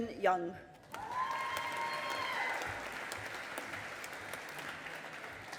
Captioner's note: audience applauding